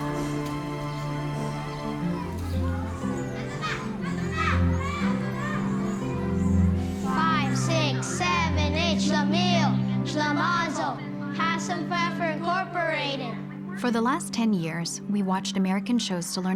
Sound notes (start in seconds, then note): 3.7 yelling in foreign language